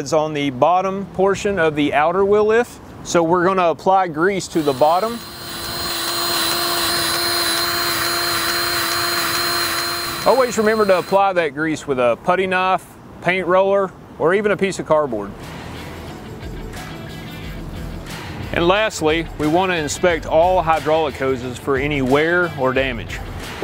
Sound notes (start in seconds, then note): 4.6 grease gun revving; 16.4 upbeat music